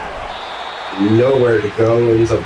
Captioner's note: crowd Noises